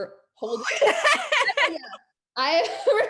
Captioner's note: laughs loudly